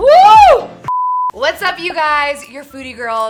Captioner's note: beep